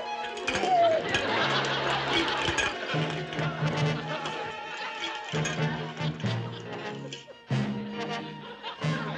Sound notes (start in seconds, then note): 0.1 audience laughs; 2.1 cans clanking